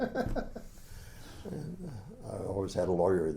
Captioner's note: laughs